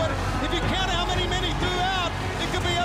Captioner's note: crowd cheering